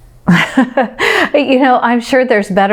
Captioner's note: laughs